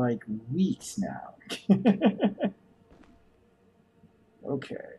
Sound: chuckles

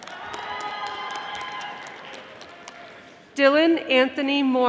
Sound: audience applauding

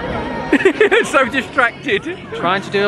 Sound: chuckles

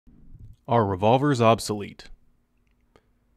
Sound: voiceover

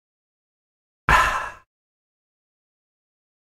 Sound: sound of satisfied drink voice

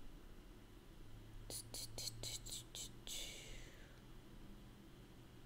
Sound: mouth noises

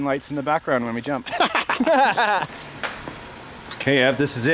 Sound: laughing

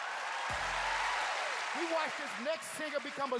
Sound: cheers and applause

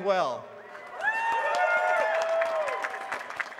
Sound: applause

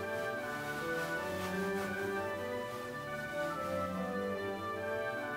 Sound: fabric rustling

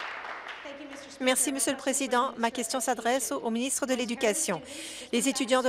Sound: applause

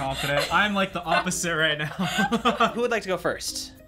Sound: laughs

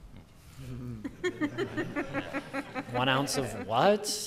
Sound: laughter

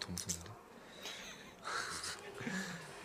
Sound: staff and laughing

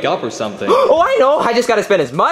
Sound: Luigi gasping

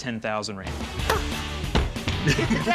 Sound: laughter

